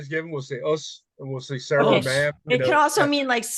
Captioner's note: murmurs